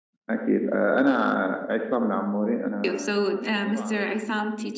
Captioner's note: speaking arabic